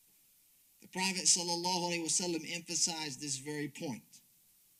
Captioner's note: speaks Arabic